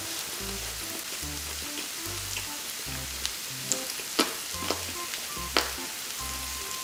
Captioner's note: munch munch